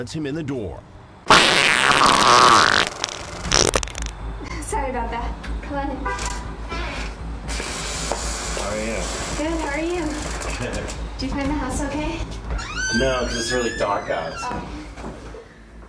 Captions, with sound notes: lets him in the door. *Obnoxiously-loud fart* "Sorry about that! Come on in!" "How are you?" "Good, how are you?" "Good." "Did you find the house okay?" "No, 'cause it's really dark out."